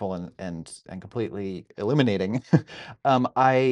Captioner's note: laughing